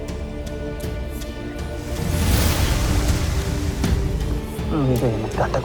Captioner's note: sparkling whoosh, energy swirling